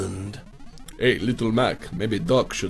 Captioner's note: foreign accent